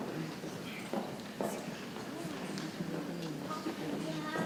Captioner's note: people chattering softly